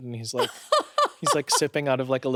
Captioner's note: laughs